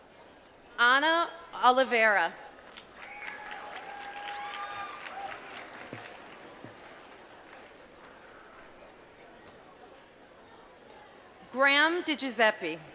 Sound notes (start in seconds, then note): 7.1 applause